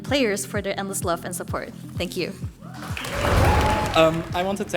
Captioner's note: applause